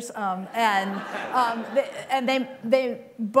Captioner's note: laughter